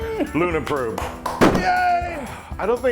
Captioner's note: laugh